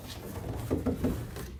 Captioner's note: tapping, creaking